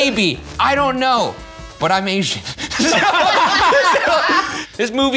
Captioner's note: laughing